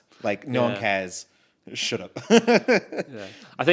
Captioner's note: laughs